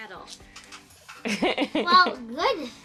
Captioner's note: laughs